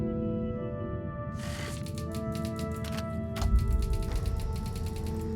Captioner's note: typewriter sounds